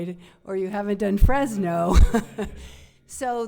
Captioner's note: chuckles